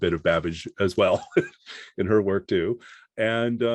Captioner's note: laughs